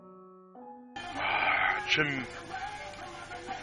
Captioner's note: exhales